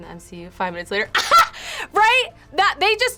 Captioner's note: laughs